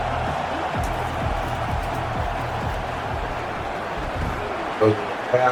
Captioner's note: crowd Noises